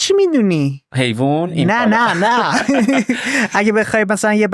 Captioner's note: laughs